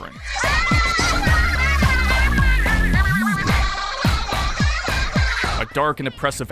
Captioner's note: various harsh squid and octopus sounds